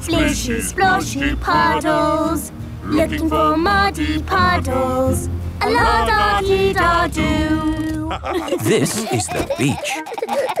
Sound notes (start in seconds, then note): 8.0 laughter